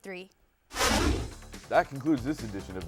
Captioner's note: whooshing